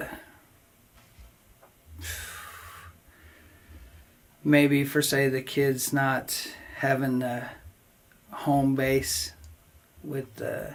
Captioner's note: sighs